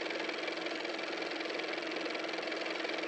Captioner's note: car motor